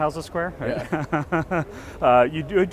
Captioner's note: laughs